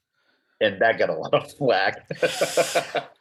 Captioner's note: laughing